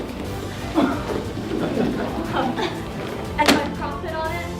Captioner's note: laughing